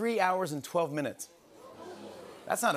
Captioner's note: audience "Oohs"